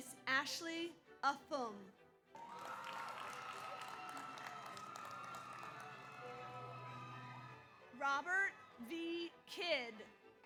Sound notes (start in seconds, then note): 2.3 audience applauds; 2.3 audience cheers